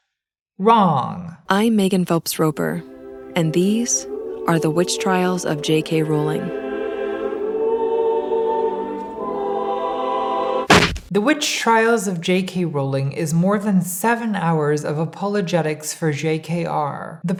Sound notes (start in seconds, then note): 6.8 choir singing; 10.7 thudding